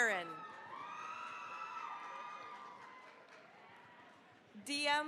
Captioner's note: cheering, applause